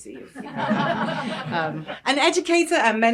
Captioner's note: laughter